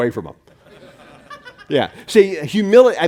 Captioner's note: laughing